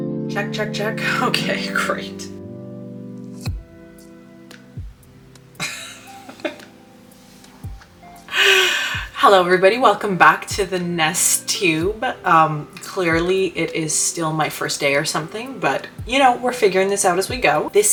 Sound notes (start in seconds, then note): 5.6 laughs